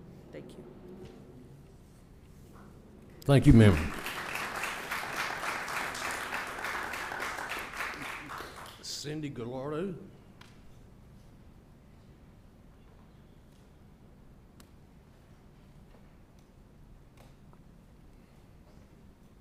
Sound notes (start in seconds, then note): 6.7 applause